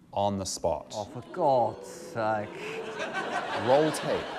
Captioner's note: laughter